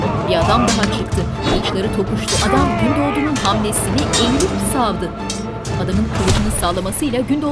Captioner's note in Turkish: Kılıç sesleri